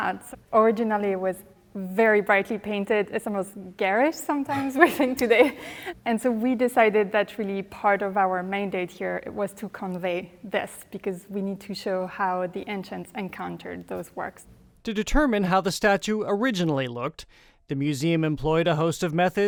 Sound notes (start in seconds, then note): 4.5 chuckles; 4.5 chuckling